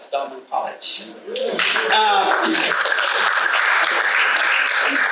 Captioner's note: audience applauding